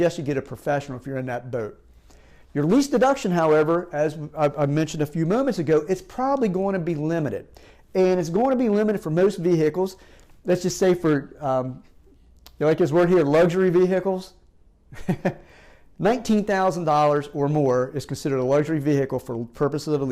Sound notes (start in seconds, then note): 14.9 chuckles